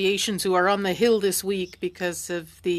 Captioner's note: speaking French